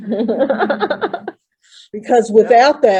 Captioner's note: laughter